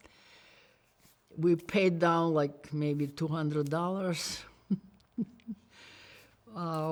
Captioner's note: laughs